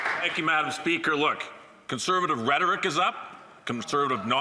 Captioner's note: some Applause